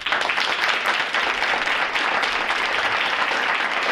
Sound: audience applauds

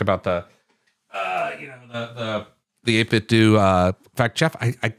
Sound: grunts

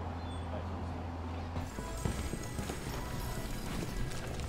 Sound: restaurant chatter; background music

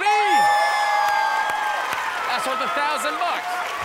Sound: audience cheers

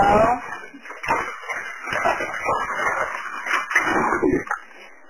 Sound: fire crackling

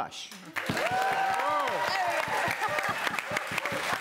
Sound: applause

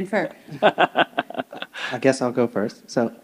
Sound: chuckles

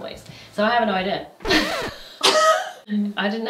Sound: record scratches; both laughing

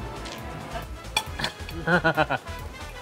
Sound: forks clink; laughs

